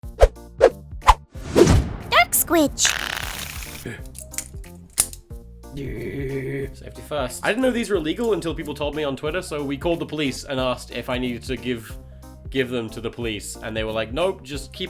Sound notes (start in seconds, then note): 2.8 butterfly Knife Sounds; 3.1 cutie Voice